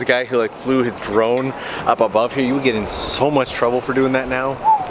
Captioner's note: whistles